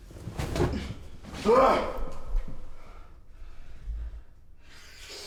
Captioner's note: grunting